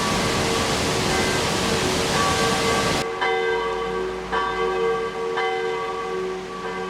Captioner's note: thundering falls fading to bells